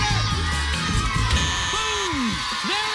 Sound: buzzer sounds

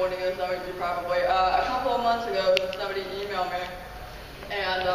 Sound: none

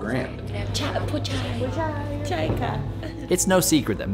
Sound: women speaking in foreign language

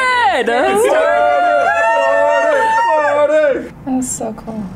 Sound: group cheering

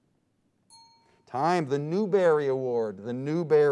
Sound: timer dings

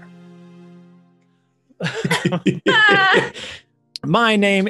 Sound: laughing

